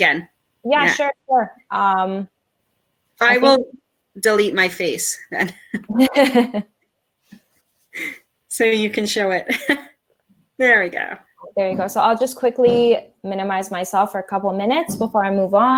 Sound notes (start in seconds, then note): 7.9 chuckle